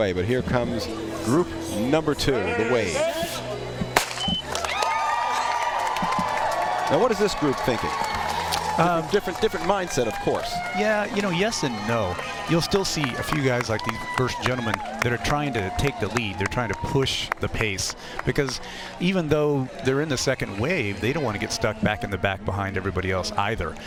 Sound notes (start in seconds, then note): 10.7 applause